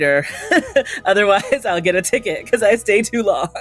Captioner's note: chuckles